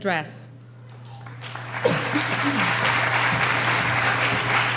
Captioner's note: applauding